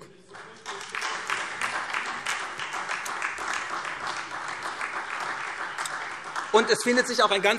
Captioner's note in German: Beifall SPD